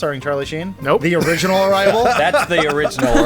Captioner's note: laughs